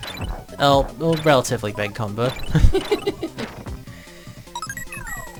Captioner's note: both laugh